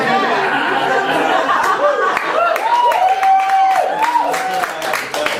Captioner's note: audience cheering